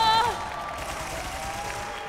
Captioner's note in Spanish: Aplausos